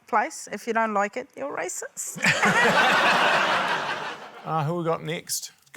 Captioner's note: laughter